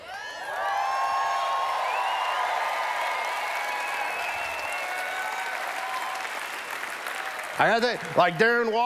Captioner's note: cheers